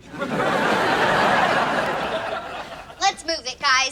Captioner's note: audience laughs